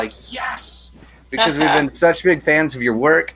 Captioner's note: laughs